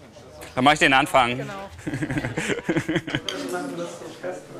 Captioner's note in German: lacht